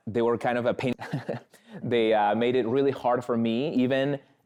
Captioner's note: chuckles